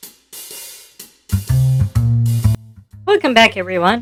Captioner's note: with a sarcastic tone